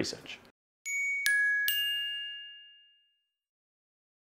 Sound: chimes

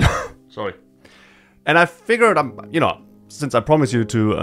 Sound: cough

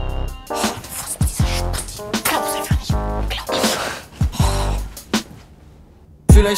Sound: hisses

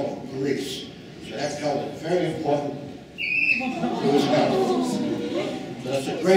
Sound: audience awwing

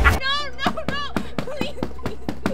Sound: devil laughs; cardboard thudding

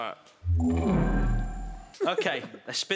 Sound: electronic sounds echoing

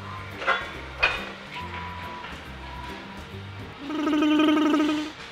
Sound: beeping; clanking; tongue trilling

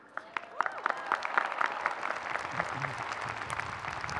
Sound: audience cheering

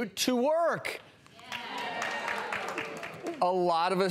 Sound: audience applauding

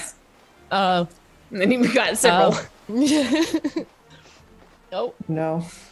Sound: laugh

